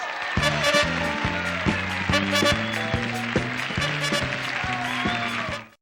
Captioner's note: applause and cheering; lively music